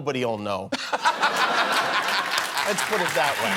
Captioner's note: laughter